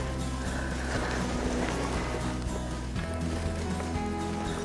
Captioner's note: heavy breathing